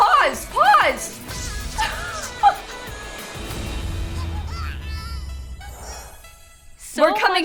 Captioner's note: simlish song ends, infant crying